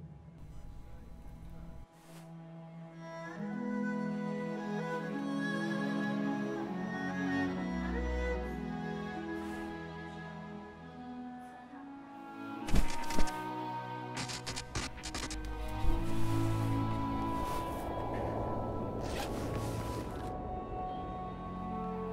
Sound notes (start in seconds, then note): 3.1 melancholic instrumental music; 12.5 static buzzing; 17.1 airplane whooshing; 19.0 suitcase unzipping